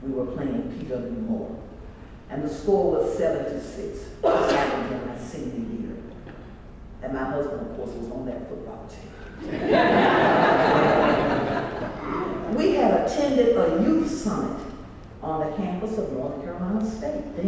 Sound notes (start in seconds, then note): 9.4 laugh